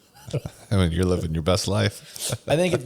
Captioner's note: laughs